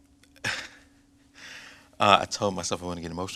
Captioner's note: chuckles